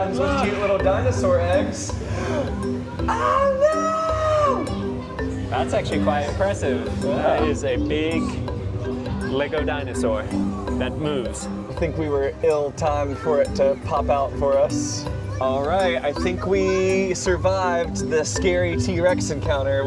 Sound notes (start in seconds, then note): 3.1 pretends to scream